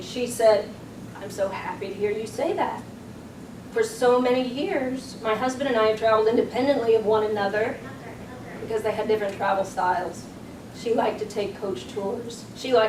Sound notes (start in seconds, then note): none